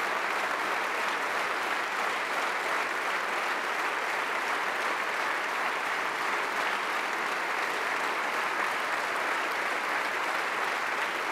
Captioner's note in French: Applaudissements – ovation debout